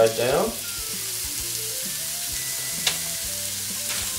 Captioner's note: sizzling